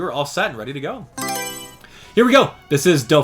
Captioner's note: Mario Selection Sound